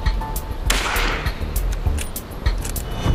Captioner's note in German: Schuss